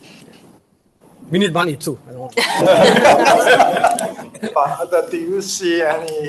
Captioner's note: audience laughs